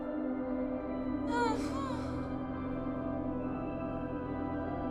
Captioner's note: woman mumbling; woman whining